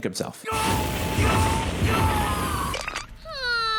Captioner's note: Subaru yelling